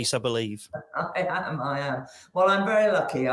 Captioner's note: chuckles